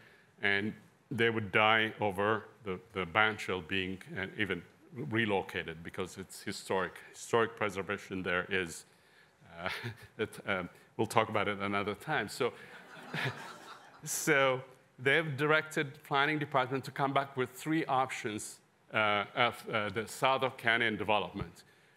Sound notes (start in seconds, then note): 12.6 laughter